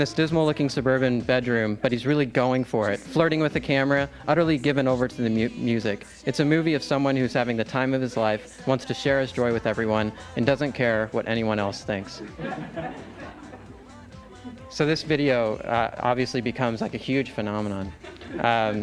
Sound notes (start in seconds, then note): 12.2 laughter